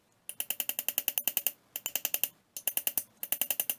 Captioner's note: hammer tapping